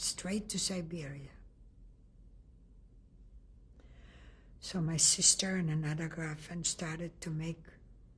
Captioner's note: pauses for 3 seconds